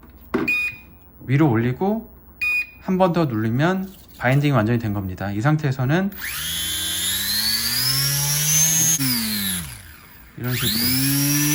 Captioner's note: Throttle